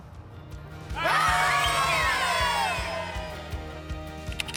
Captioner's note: kids celebrating